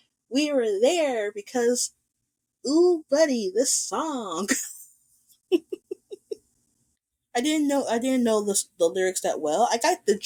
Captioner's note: laughs